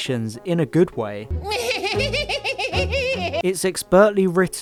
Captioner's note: laughs